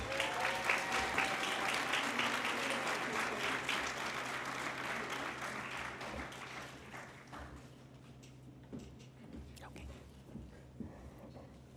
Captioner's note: applause